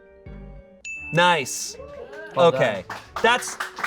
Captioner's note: bell dings